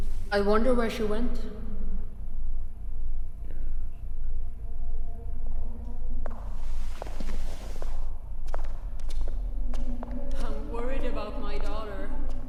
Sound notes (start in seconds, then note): 4.7 footsteps tapping; 4.7 suspenseful music